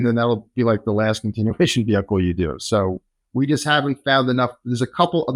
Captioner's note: laughs